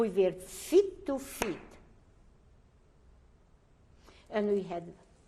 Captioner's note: pauses for 3 seconds